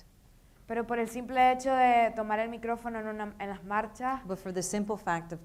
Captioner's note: speaking in foreign language